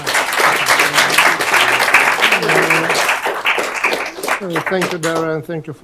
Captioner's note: applause